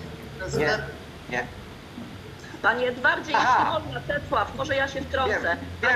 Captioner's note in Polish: śmiech